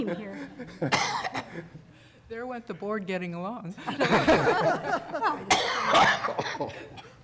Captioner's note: laughter